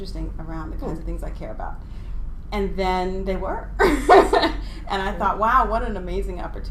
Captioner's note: laughing